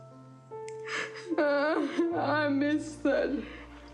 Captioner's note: sobs